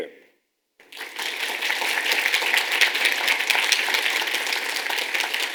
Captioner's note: audience applauds